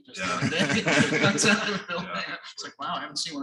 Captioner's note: laughter drowns out speech